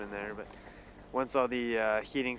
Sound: voiceover

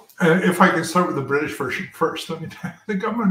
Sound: laugh

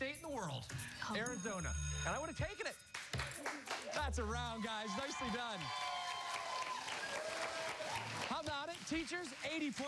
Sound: cheers and applause

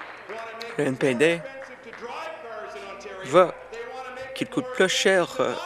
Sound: applause

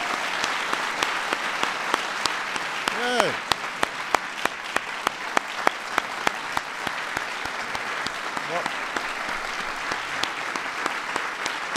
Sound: applause

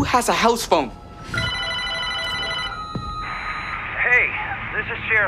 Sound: phone rings

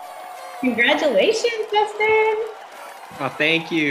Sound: audience applauding

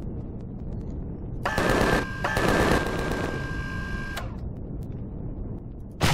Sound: machine guns; rockets firing

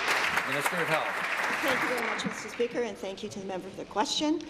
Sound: applause

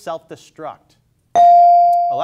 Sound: bell dings

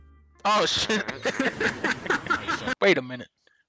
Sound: laughter

